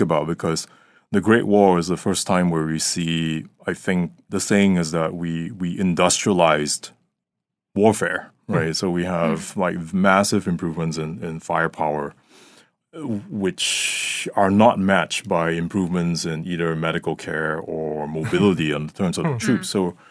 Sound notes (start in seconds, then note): 19.2 chuckling